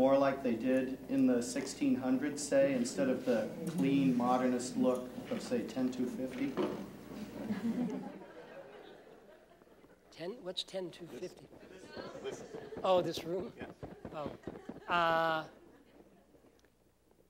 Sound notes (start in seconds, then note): 7.2 laughter